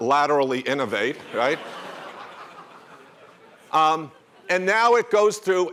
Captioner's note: laughter